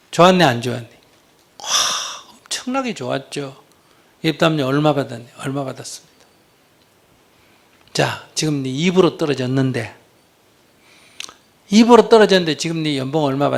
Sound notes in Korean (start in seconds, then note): none